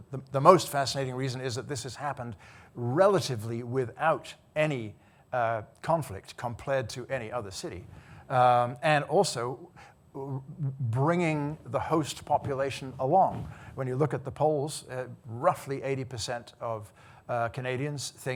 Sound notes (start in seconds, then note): none